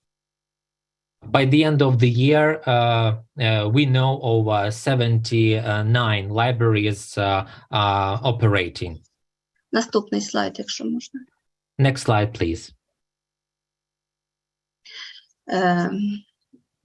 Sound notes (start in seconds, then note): 9.1 foreign language